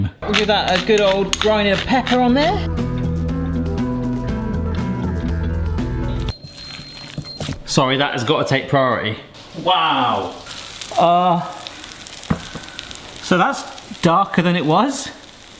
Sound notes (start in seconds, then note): 6.3 oven beeping; 9.3 potatoes sizzling